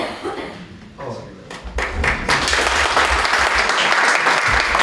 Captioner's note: applause